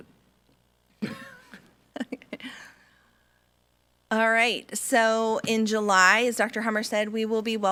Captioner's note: laughs